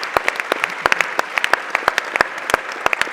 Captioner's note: applause